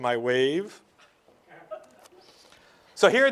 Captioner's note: light laughter